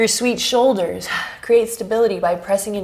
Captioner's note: deep breaths